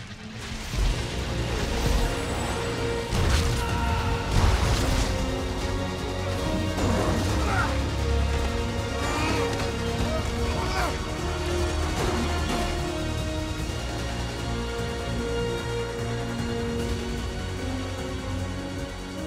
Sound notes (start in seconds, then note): 0.1 dramatic music playing; 3.6 Miguel yells